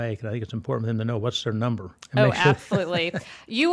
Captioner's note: laughs